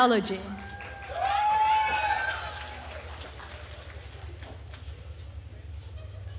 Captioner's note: attendees cheering and applauding